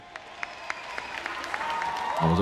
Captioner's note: applause, cheering